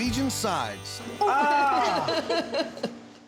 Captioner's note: laughs